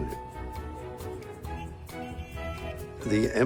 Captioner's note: car horn honking